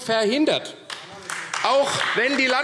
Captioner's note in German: Beifall AfD